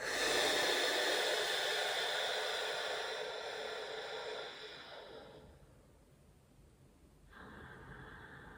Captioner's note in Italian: sbuffare; sospiri